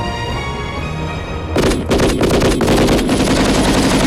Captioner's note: gun firing